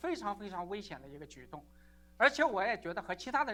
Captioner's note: chinese 00:51:45